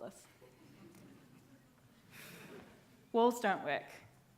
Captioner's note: audience laughing